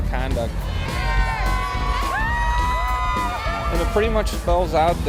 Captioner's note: crowd cheers